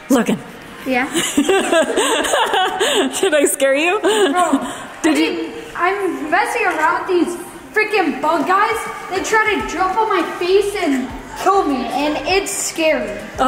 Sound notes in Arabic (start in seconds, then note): 1.1 تضحك